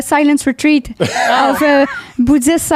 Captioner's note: in french; laughing